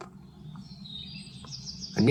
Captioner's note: birds chirping